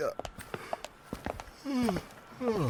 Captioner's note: yawning again